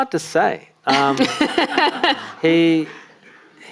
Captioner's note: audience laughing